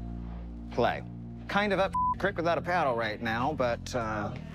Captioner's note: beep